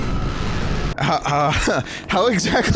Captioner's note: laughs